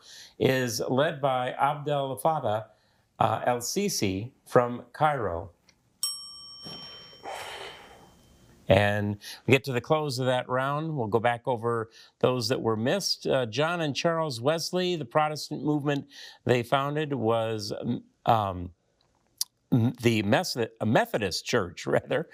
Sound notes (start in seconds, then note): 6.0 timer dings